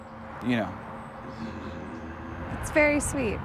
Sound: grumbles

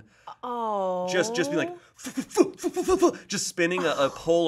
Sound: grunting

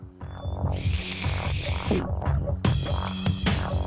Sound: slurping; dark, intense music

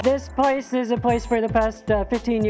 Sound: voiceover

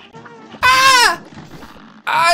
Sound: yells

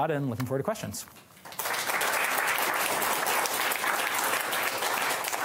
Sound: applause

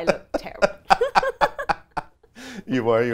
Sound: laughs loudly

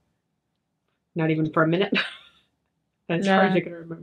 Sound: chuckles

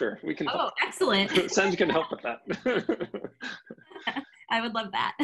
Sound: laughing

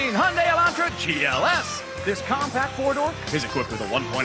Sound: cheers and applause

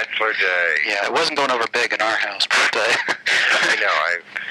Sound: laughing

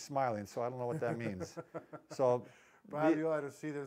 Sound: chuckling

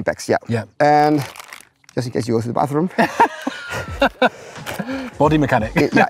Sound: laugh

